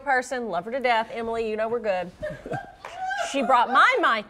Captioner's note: laughter